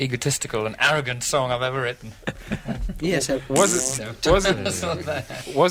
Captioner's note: laughter, then a raspberry